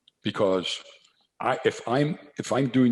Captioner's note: none